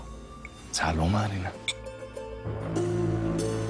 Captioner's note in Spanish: Chocan los vasos